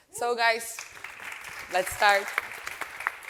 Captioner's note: audience applauding